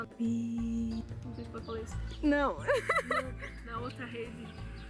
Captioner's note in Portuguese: risos nervosos